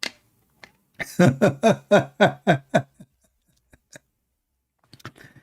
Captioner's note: Ketawa